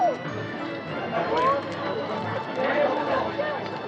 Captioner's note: crowd chattering